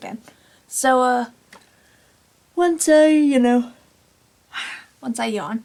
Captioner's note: yawns